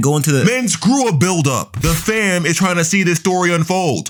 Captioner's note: air whooshing